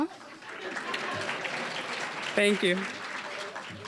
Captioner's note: applause; audience laughing